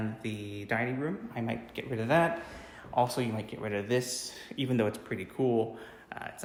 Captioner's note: fireplace